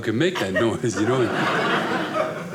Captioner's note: audience laughing